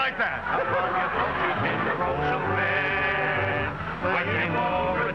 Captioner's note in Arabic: الجمهور يضحك